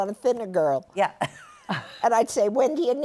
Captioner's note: laughter